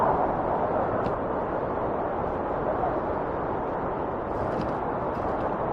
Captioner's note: wind whistling continues